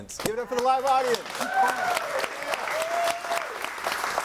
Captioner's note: audience cheering; audience applauding